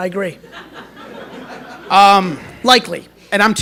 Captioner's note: laughter